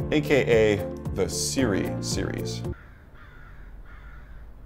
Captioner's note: crows cawing